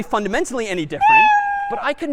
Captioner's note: meow